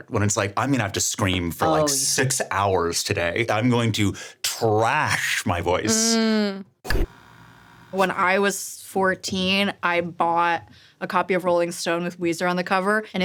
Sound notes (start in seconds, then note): 6.8 static buzzing